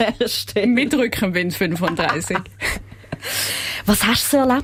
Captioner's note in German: lacht